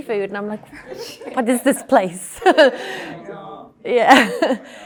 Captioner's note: audience laughing